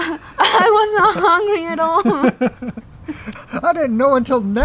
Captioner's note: laughs